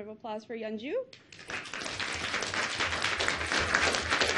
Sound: clapping

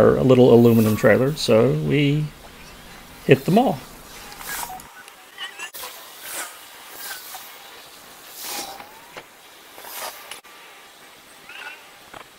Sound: sounds of vehicle zooming around in fast motion

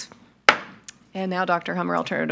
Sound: gavel strikes

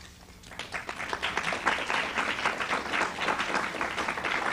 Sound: applause

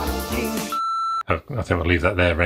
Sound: beeping sound

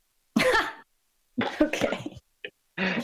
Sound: laughs

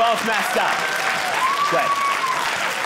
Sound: audience cheering

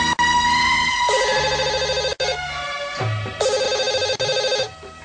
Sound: ring ring

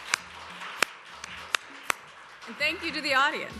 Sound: applause

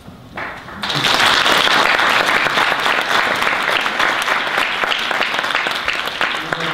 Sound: audience applause

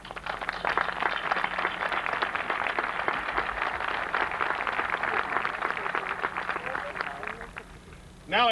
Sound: applause

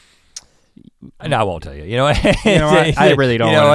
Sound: laughs

